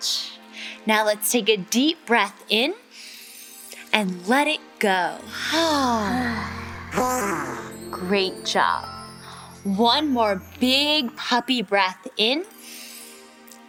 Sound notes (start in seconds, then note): 5.3 exhaling